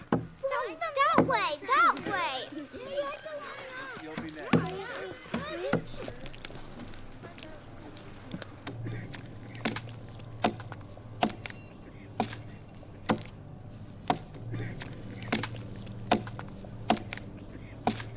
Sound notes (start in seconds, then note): 7.1 pensive minimal music; 9.8 tool banging